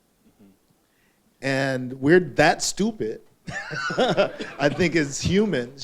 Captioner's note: laughing